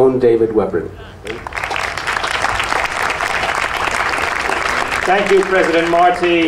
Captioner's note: audience applauding